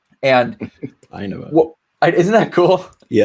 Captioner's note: laughing amusingly